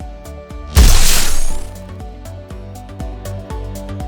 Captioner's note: explosion